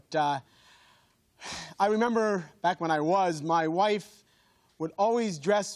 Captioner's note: sighs